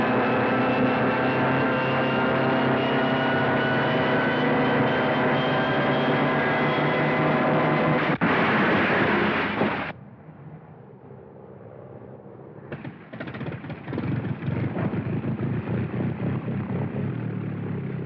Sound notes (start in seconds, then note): 12.8 airplane Engine Chugging